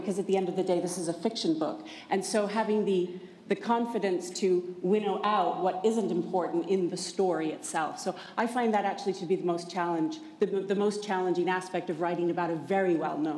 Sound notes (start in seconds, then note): none